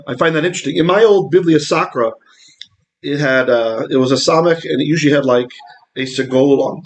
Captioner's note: Hebrew; Hebrew